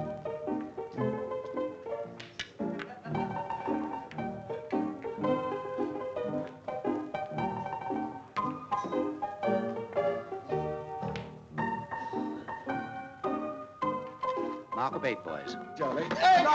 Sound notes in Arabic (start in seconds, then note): 12.3 الناس يتحادثون